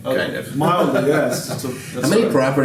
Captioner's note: laughing